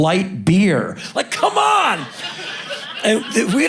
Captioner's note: crowd laughing